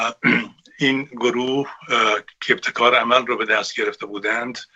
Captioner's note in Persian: گلویش را صاف می‌کند